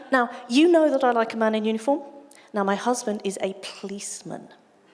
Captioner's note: none